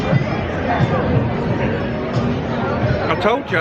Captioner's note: people chattering